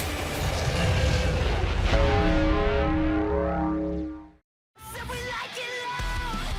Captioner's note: bell tolling